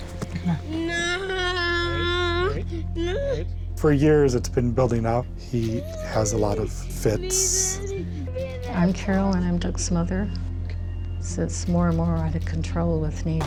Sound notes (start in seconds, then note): 7.5 shouting